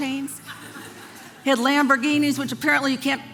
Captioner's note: congregation laughing